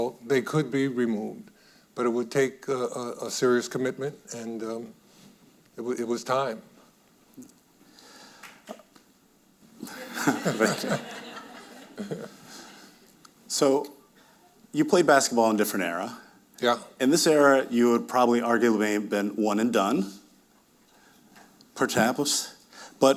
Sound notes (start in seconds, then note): 8.4 audience member clapping; 9.8 audience laughing